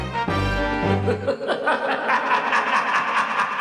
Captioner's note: Palpatine laughs